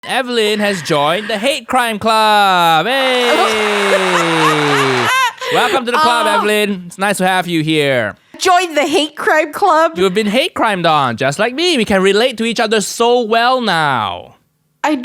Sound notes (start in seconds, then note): 3.0 laughs; 3.2 applause